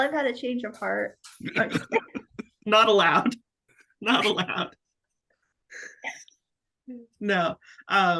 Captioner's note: everyone laughing